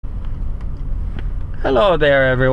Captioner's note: heavy Traffic